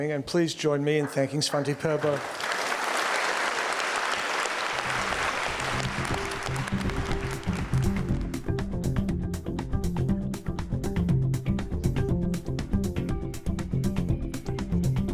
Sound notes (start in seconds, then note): 1.5 attendees applauding; 6.6 lively music